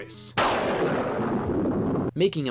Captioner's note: lightning strikes